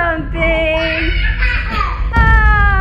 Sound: boys laughing

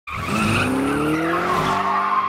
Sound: tires squealing

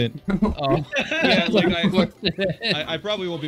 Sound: laughing Hysterically

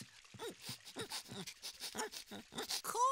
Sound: sniffing

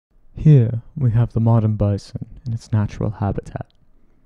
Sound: David Attenborough voice

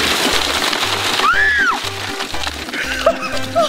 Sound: shrieks

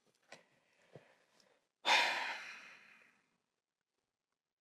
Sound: he takes a deep breath

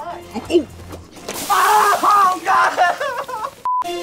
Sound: crying

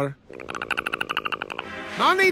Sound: Perry chatters

